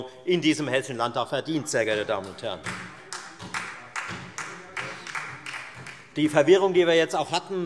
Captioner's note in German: Beifall Freie Demokraten und SPD